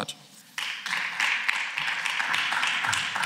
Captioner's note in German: Beifall